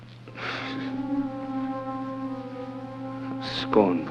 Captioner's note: exhales